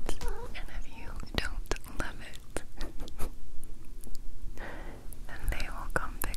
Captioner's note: laughs